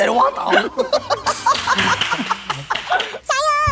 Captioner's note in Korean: 웃음